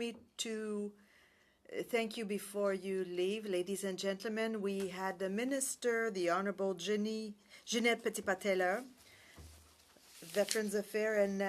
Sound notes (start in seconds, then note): 1.7 speaking french